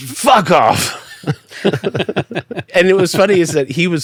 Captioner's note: laughing